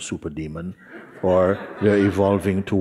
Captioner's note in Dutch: gelach